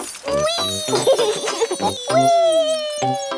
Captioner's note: laughs